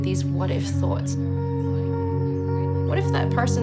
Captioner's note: distant chatter